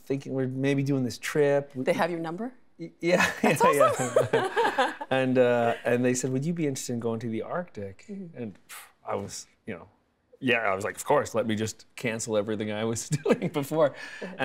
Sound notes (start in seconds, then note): 3.3 laughing